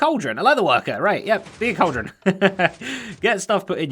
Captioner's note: chuckles